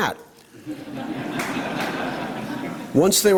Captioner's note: laughter